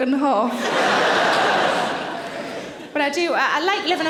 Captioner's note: audience laughing